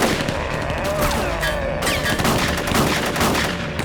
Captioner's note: growls